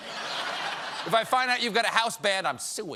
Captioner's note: laughter